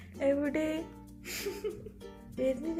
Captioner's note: laughing